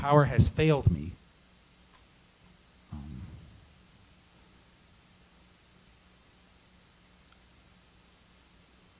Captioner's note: silence